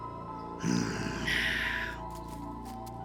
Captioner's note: angry growling